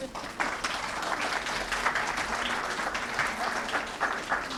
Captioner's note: applause